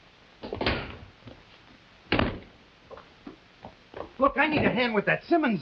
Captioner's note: doors slamming